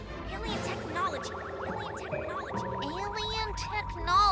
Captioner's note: Lizbeth echoing